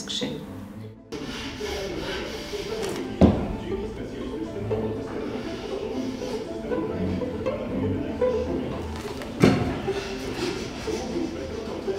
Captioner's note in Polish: dźwięki z pracowni stolarskiej, stukot maszyn, narzędzi, szlifowanie drewna